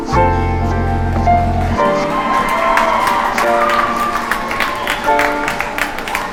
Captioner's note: people cheer and applaud